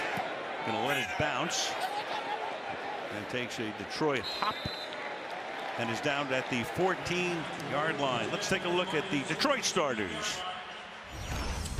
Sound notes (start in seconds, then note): 4.2 whistle